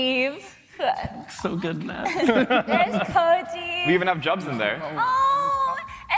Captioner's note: laughter